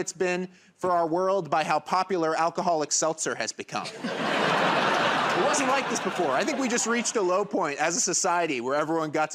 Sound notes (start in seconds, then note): 3.9 laughter and applause